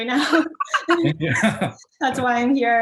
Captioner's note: both laughing